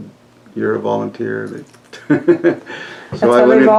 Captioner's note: laughs